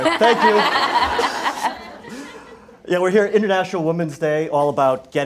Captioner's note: laugh